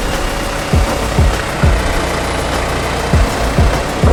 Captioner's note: engine roars